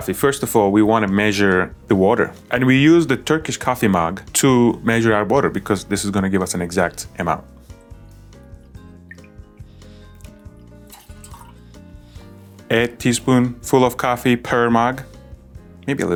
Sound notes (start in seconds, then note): 7.9 gentle elegant music; 7.9 water trickling